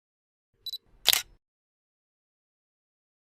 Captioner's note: camera Shutter Sound